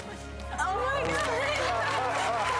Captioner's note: audience cheers and claps; laughs